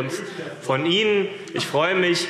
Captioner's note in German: Lachen und Widerspruch SPD